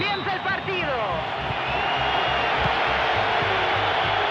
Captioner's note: crowd cheers